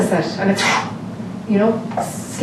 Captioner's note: blows air